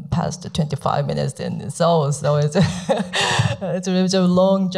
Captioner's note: laughs